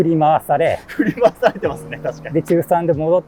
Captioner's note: laughing